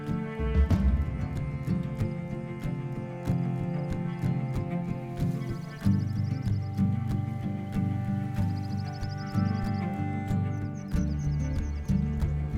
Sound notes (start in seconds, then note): 0.8 upbeat western music continues; 5.5 birds chirping